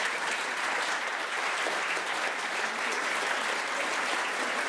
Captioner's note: crowd applause